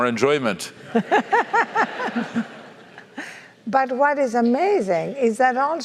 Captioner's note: laugh